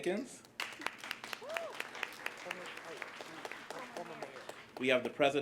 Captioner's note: cheers, applause